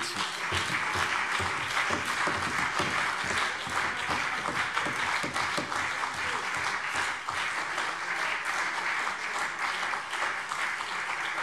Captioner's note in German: Beifall BÜNDNIS 90/DIE GRÜNEN und CDU